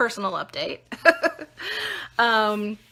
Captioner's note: laughing